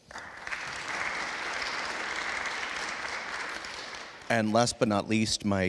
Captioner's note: attendees applauding